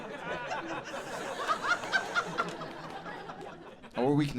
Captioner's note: audience laughing